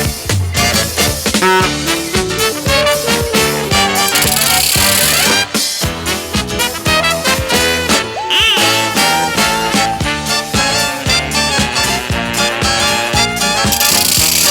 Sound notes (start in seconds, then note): 0.6 car honking; 2.4 upbeat music; 8.5 car honking; 9.9 upbeat music